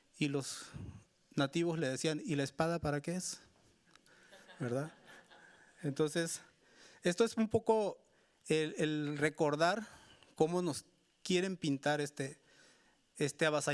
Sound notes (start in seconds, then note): 4.4 audience laughing; 6.6 speaking Spanish continues